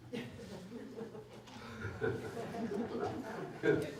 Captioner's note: laughter